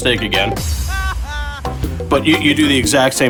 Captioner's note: comedic laughter